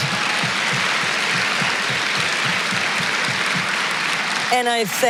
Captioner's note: applause